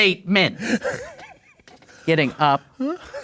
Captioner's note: laughing